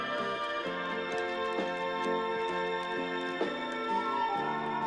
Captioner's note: chain rattling